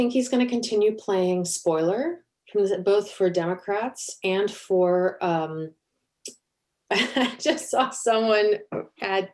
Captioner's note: laughter